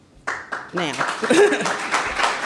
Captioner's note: applause